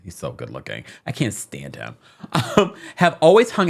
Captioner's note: chuckling